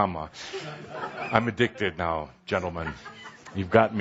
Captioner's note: laughter